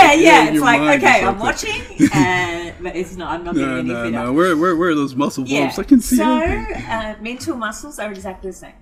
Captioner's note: both laugh